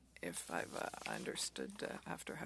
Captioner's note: speaking French